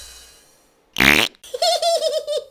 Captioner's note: raspberry